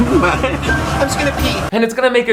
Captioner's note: giggles